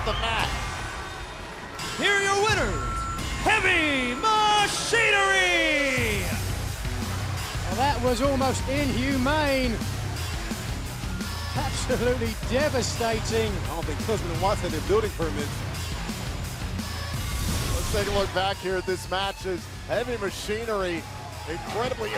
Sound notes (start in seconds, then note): 1.7 bell ringing